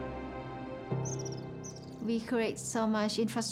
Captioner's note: birdsong